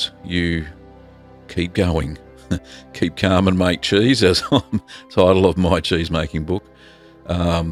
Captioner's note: giggle